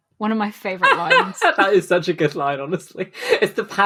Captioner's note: laughs